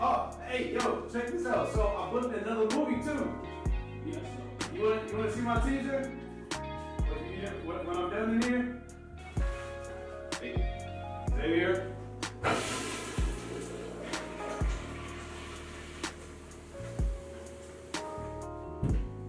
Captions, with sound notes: Ah a yo check this out, so I booked another movie too ... Yeah so, you wanna...wanna see my teaser ?!? When Im done in here.. Xavier ?! (Toilet Flushing)